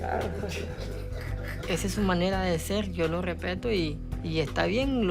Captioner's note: laughter; Roman speaking Spanish